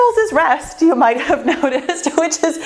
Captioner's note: laughs